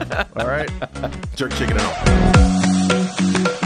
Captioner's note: laugh